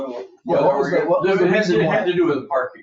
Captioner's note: people chattering